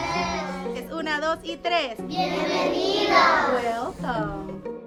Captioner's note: teacher and students speaking Spanish